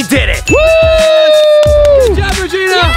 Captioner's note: shouting